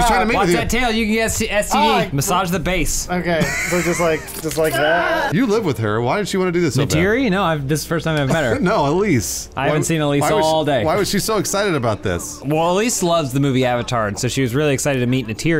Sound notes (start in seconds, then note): 3.8 Na'vi squish sounds; 4.7 overstimulated roar